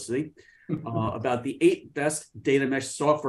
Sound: laughing

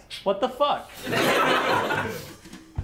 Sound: laughs

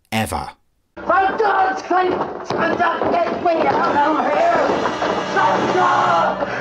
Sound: yelling

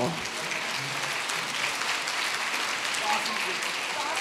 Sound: audience applauds

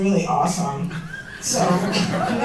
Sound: laughter

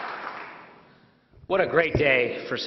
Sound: applause

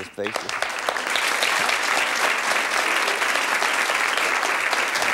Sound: audience applauding

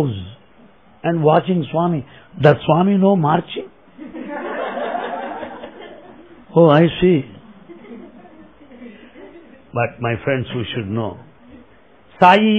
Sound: laughter

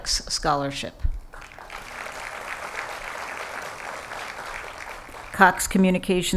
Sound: applause

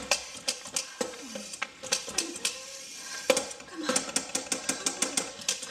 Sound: crackling sound; rattling sound

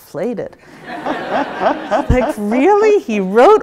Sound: audience laughs

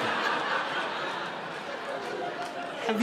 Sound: audience laughing

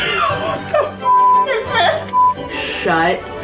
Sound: beep

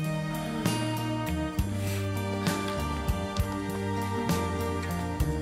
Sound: moaning

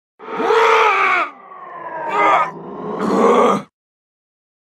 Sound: painful screams

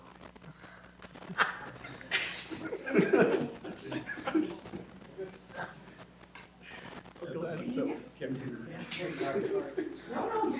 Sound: laughter

